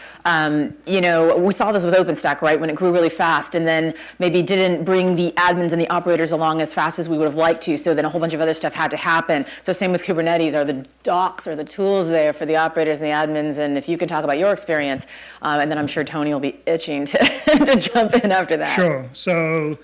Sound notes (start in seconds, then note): 17.2 laughter